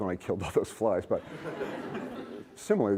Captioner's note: laughter